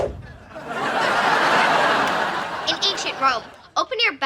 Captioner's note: audience laughing